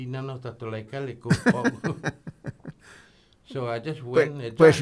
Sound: they both laugh

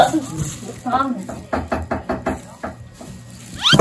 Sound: the sound of a knife

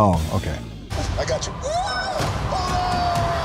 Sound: squealing

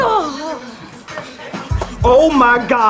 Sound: groans

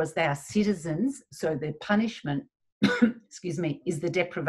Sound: coughs

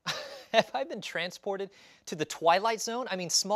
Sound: laughs

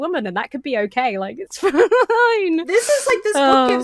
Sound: laughs

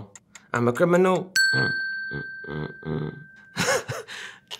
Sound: humming; laughing

